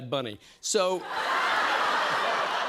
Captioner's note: laughter